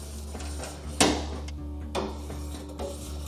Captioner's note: knife scraping